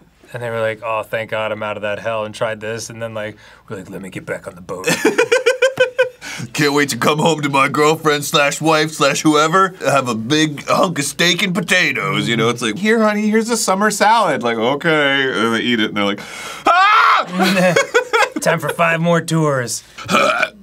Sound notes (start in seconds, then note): 16.6 screams; 20.0 burps